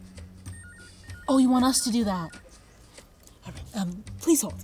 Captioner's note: telephone ringing